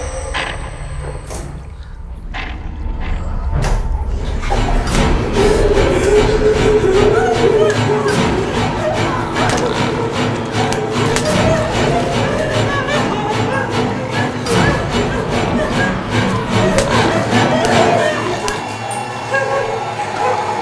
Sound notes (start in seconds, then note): 5.7 terrified gasping; 6.9 loud chugging; 10.1 struggled whimpering; 13.8 growling; 20.3 labored breathing and growling